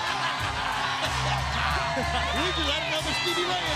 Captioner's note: commentators laughing